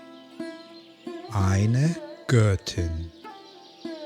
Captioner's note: german